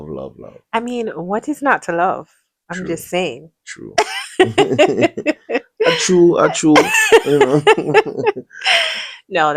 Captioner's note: laughter; laughter and gasps